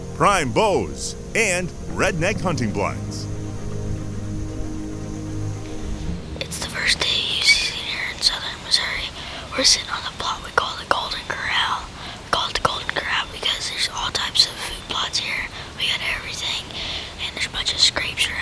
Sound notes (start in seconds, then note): 4.8 whispering